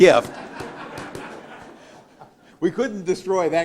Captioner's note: laughter